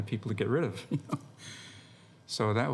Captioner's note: chuckles